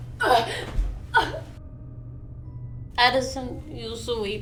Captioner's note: Wilhelmina gasping